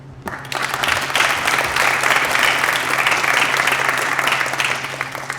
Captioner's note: applause